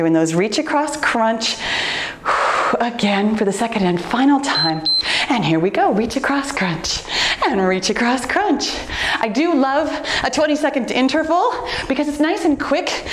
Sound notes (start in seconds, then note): 1.6 exhales softly; 4.5 timer beeps